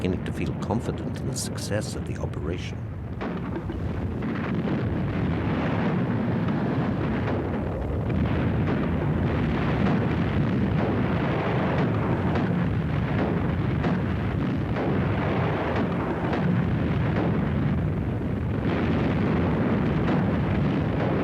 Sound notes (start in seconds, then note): 2.9 explosions; 2.9 gunfire